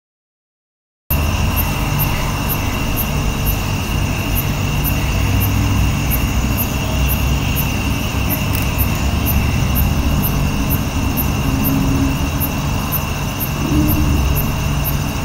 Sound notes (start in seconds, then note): 1.1 sound of jungle